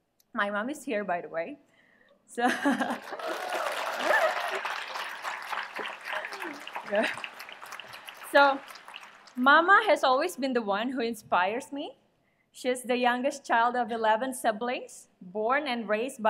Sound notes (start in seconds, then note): 2.6 laughs; 2.6 applause